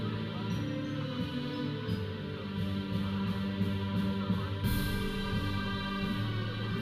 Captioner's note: processional music; audience chattering